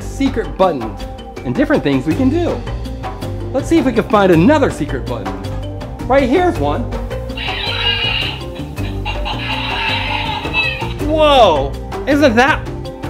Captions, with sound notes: secret buttons and different things we can do. Let's see if we can find another secret button. Right here's one. (animal calls) Woah! Isn't that cool?